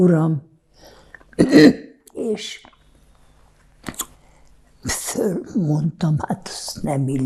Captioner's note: clears throat